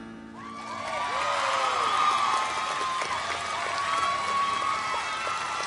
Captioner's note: audience cheers and applauds